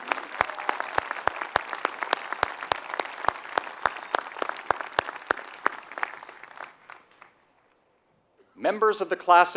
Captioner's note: applause